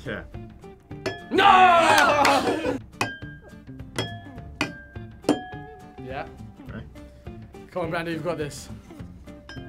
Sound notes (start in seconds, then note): 2.0 laughs; 3.9 glasses chiming; 9.4 glasses chiming